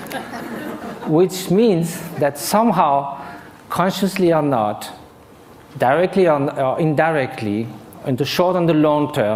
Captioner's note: laughter